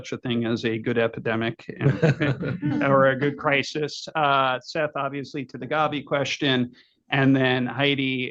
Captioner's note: laughter